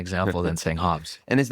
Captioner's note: laughs